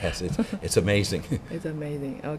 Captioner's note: laughs